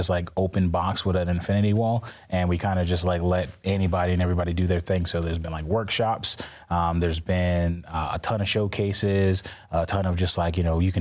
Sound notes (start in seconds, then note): none